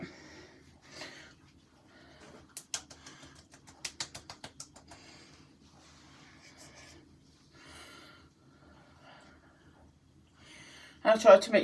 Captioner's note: facial tapping sounds